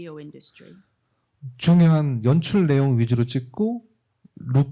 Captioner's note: speaking korean